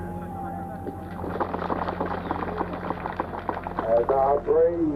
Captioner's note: applauding